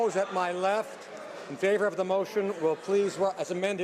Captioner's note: crowd Noise